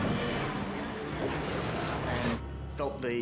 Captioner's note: metal crunching